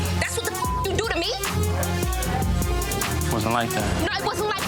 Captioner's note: beep